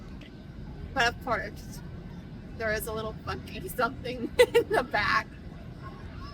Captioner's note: laughs